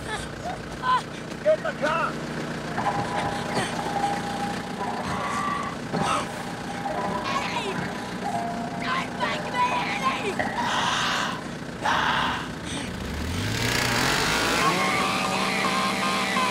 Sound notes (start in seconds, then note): 10.9 Eddie shrieking; 12.9 chainsaw buzzing